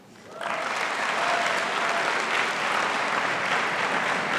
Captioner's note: audience applauding